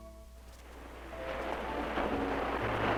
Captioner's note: waves crashing; gentle piano music playing